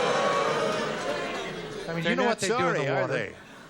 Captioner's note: booing